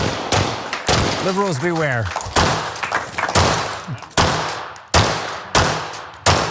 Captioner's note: applause